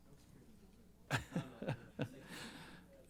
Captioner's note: laughs